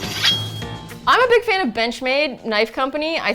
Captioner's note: shink